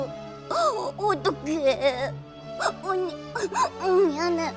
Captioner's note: sob